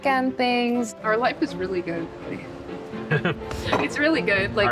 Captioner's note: chuckles